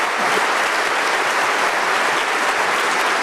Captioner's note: applause